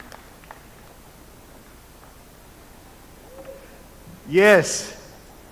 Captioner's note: applause